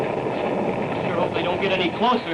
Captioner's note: explosion